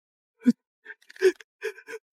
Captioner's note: scream